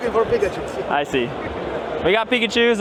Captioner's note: laughing